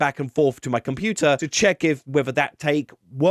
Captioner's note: none